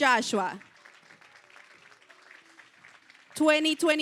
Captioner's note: applause